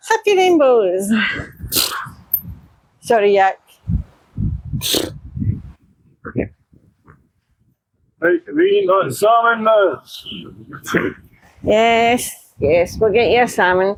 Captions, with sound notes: Happy rainbows. [grunts] Sorry, Yak. [grunts] [shouts] Right, are we eating that salmon now? Yes, yes, we'll get you a salmon.